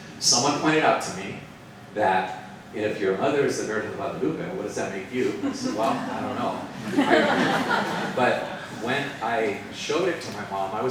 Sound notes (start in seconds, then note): 7.3 participants laughing